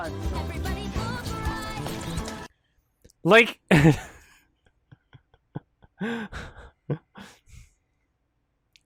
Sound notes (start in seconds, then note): 3.8 single chuckle; 4.7 VERY slight chuckles